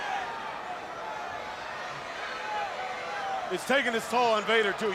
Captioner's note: crowd chatter